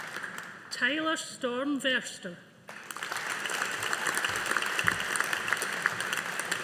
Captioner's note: audience applauding